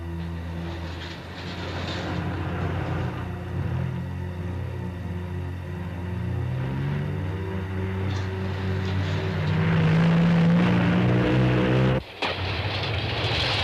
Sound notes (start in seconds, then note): 6.0 car leaving; 11.6 train passing